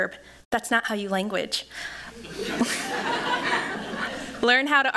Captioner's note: laughter